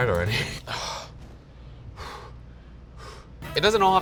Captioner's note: breathing heavily